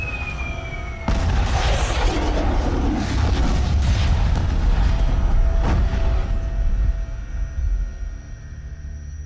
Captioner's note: bomb whistling; explosions